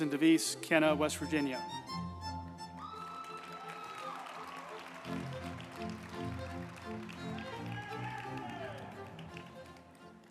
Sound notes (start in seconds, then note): 2.0 uplifting music; 2.6 group applauding